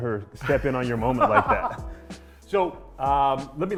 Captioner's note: laughs